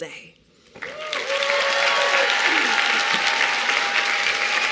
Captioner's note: cheering and applause